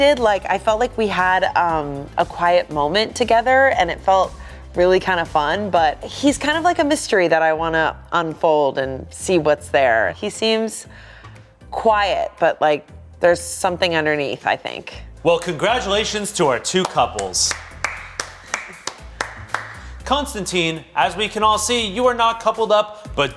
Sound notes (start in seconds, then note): 16.5 applauding; 18.0 bright rhythmic music continues